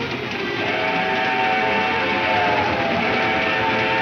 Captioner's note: train horn blares